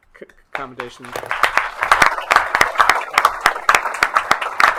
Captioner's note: attendees applauds